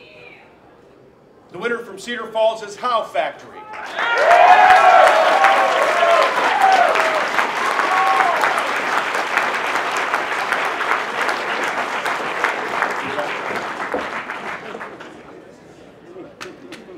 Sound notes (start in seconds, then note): 4.3 applause